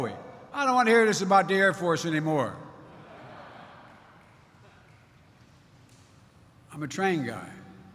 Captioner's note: laughter